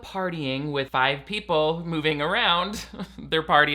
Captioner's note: laughs